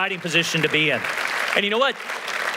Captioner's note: applause